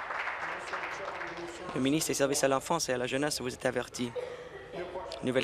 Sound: applause

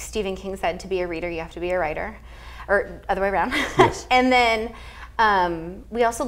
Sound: laugh

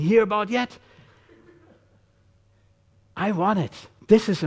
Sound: audience chuckling

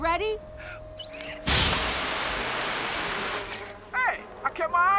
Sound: spraying

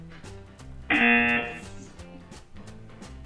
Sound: buzzer rings

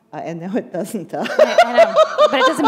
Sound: laughter

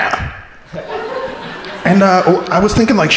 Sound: crowd laughing

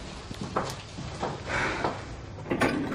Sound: deep breathing; elevator door opening

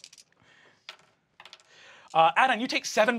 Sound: dice rattle

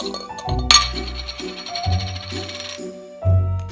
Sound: lid spinning

